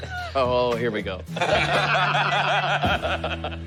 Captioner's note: laughter